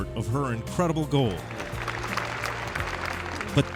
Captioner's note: applause